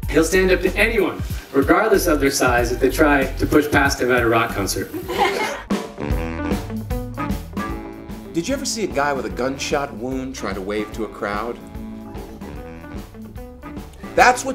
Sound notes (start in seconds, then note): 4.9 laughing